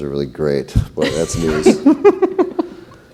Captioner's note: laughs